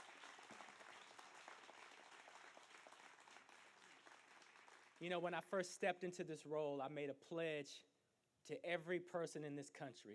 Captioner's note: applause